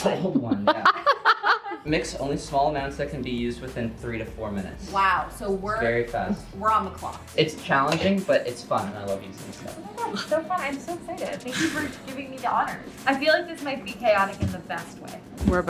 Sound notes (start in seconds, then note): 0.6 laughing; 11.5 chuckles